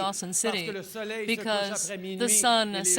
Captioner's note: speaking French